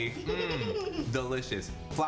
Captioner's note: laughing